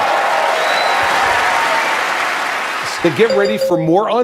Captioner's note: cheers